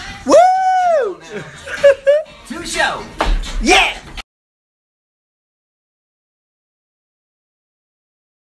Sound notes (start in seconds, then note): 0.2 cheering